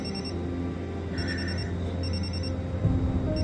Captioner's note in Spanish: Suena el celular